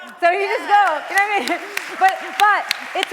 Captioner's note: applause